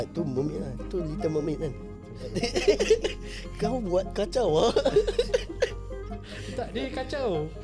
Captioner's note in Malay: ketawa